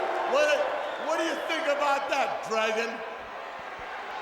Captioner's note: crowd cheering